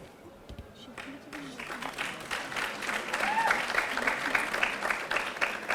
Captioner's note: audience applauding